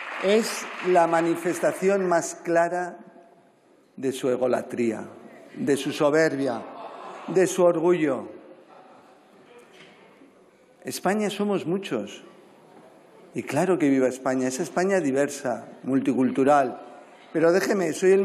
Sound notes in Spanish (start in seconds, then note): 0.0 Aplausos; 6.6 Risas